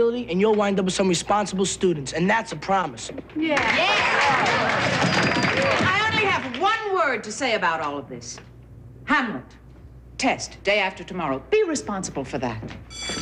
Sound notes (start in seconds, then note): 3.6 applause and banging